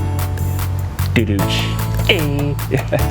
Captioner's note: imitating drumroll sound; laughs